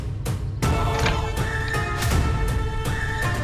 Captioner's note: door opens